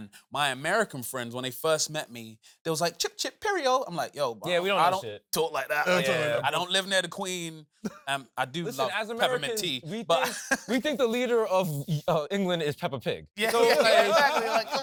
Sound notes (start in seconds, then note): 7.8 chuckles; 8.6 laughs; 13.4 laughing